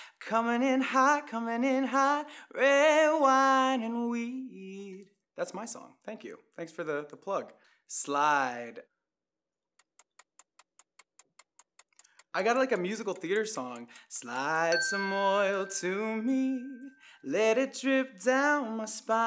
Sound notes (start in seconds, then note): 11.0 clock ticking